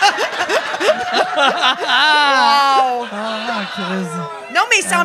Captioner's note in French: rires